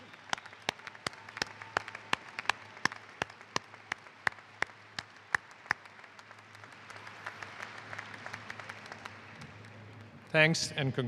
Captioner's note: applause